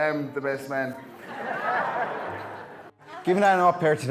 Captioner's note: guests laughing